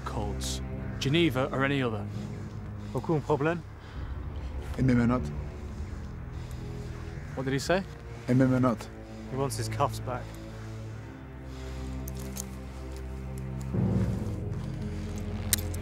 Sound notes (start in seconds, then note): 2.4 Challenger speaks in foreign language; 4.0 Durand speaks in foreign language; 7.8 Durand speaks in foreign language; 12.9 ominous music